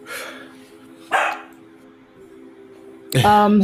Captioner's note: dog barks